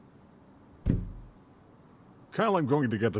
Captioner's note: dull thud